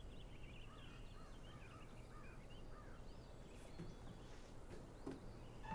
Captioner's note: birds cawing